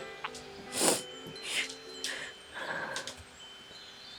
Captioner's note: Sarah sniffles